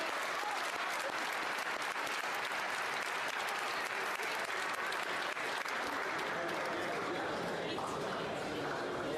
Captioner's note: applause